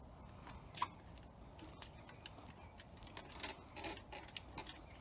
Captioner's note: footsteps tapping